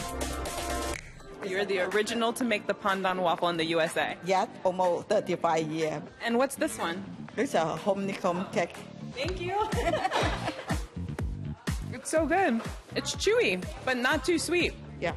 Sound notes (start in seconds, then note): 9.6 laughter